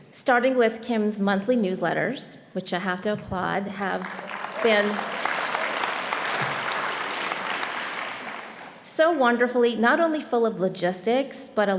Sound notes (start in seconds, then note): 5.7 audience applauding